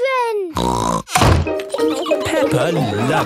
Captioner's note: snorts